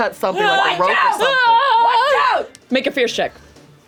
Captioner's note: screams